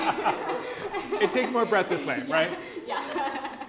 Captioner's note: laughter